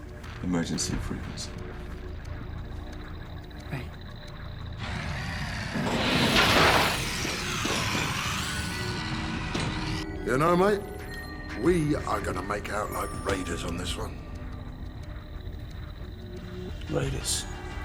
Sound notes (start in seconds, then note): 4.3 whirrs, clatters